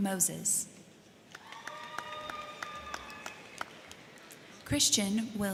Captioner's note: crowd clapping; crowd cheering